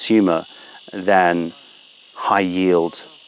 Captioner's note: none